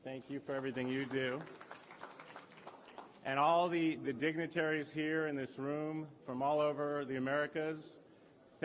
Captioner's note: applause